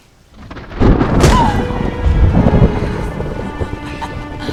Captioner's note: thunder crashing